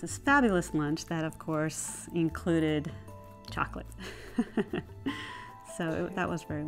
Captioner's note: laughs